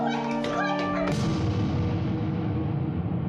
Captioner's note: shouting; ominous music